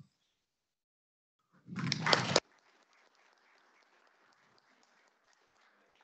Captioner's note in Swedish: Applåder